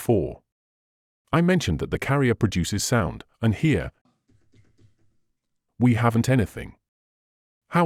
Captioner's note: keyboard noise